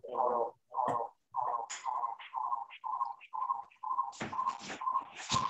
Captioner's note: echoing